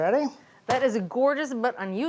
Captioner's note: pan thudding